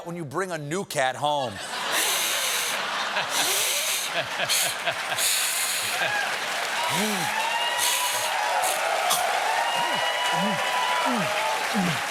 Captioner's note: cat hiss; cheers and applause